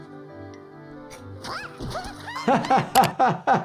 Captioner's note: ant screams; laughs